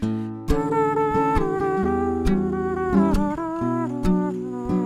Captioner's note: mouth blows shallowly